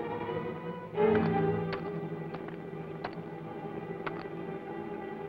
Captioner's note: pickax clacks